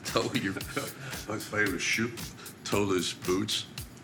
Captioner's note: audio muffles